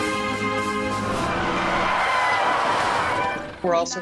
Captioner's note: screeching tires